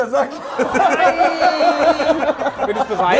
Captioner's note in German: Gelächter